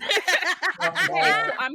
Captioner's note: laughing